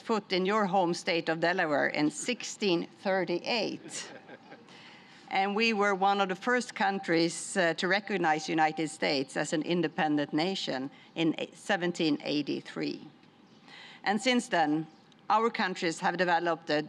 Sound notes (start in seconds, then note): 3.7 laughter